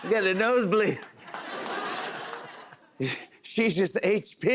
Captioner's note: laughter